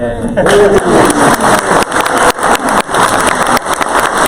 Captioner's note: crowd applause